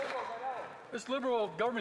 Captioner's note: some Applause